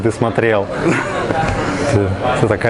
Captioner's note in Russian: смех